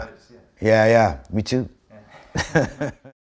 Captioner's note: chuckles